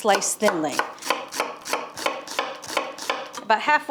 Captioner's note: knife chops